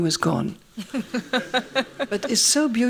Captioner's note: laughs